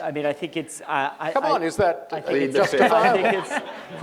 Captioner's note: laughter